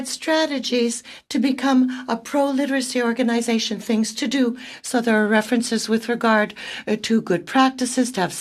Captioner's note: speaking French